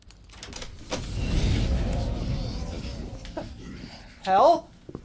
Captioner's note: sighs